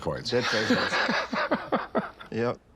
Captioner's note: laughter